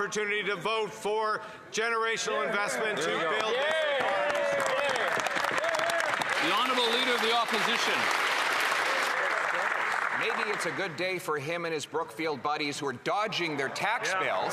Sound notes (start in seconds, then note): 10.4 some Applause